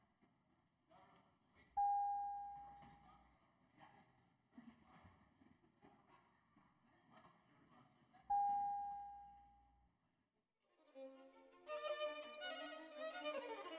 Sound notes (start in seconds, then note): none